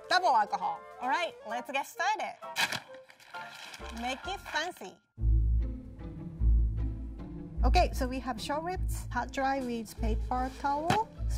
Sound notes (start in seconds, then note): 2.6 bag crinkling; 5.1 mischievous music